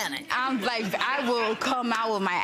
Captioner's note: laughing